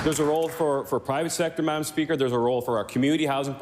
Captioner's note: applause